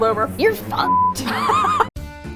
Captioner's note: laughs; uptempo Folk Music